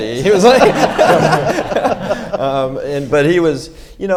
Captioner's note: audience laughs